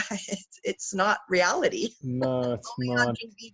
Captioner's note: laughs